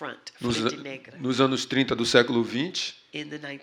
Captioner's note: speaking portuguese